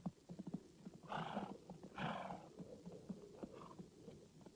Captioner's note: horse snorting